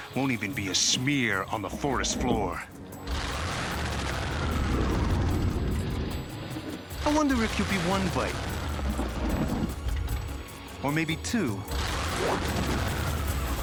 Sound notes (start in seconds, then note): 3.0 growling